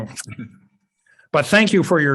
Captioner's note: chuckles